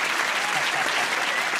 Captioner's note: applause